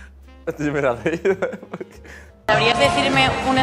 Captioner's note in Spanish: ríe y balbucea